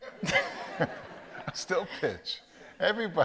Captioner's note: audience laughs